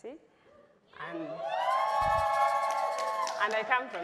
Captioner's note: crowd cheering